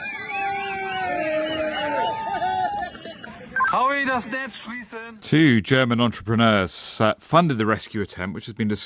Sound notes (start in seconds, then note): 1.7 cheering